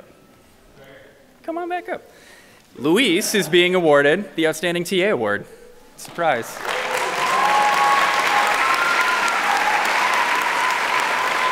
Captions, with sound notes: Come on back up. Luis is being awarded the outstanding TA award. Surprise. (audience clapping)